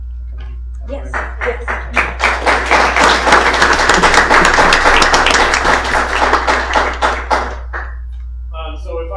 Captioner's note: applause